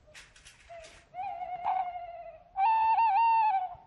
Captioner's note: owl calls